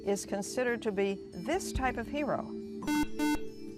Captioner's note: buzzer